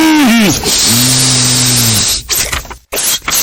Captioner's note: sniff